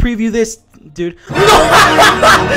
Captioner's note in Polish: śmiech